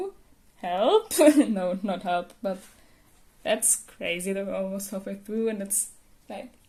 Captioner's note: laughter